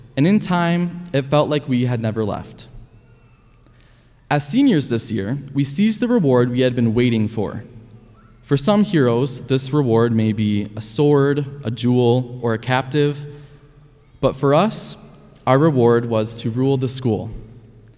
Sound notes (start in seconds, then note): none